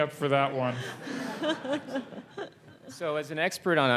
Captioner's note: laugh